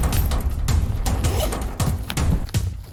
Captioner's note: hectic percussive music; zipper; hectic percussive music